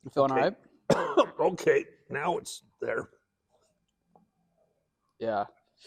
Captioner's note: coughs